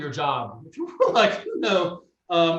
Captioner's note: chuckles